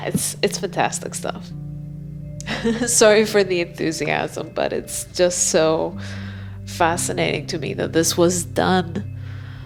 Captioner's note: laughs